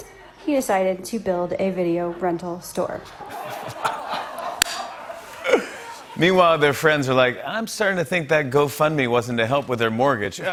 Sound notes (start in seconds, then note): 3.0 laughter